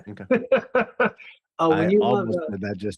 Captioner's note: laughs